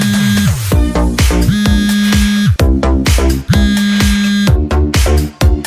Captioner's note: phone Ringtone